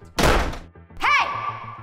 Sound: door slamming

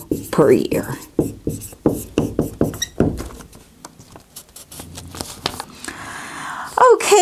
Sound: sound of writing

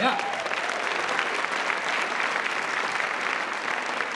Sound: applause

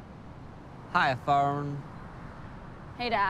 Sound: southern accent

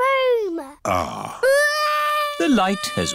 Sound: crying

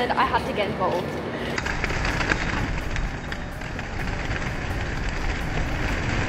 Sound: pigeons flying

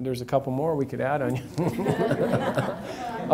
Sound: laughs; audience laughs

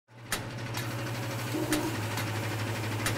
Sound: machinery running

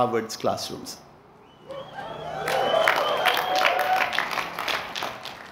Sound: cheering

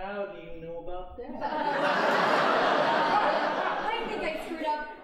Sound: audience laughing

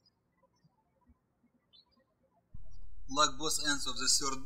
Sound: birds chirping

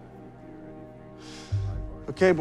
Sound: breathes sharply

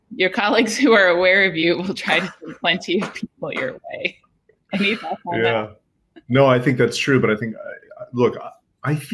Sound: laughing

